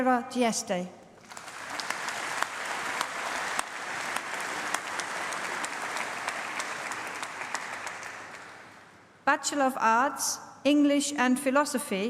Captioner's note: applause